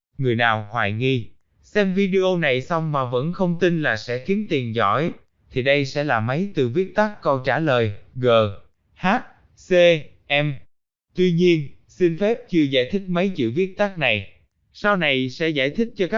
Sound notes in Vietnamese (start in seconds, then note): 9.6 Vietnamese